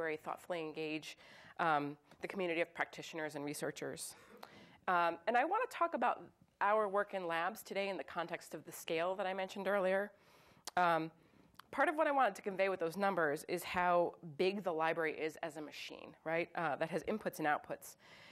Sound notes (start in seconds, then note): none